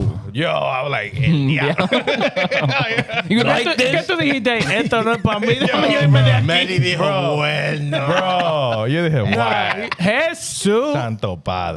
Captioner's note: speaking In Foreign Language